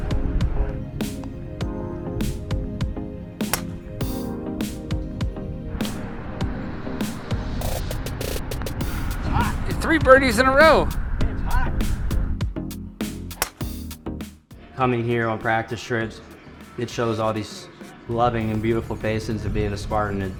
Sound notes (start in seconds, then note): 0.3 upbeat pop music; 3.4 golf club whacking; 13.1 golf club whacking